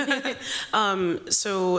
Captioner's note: chuckling